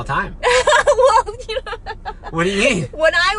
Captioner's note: laughs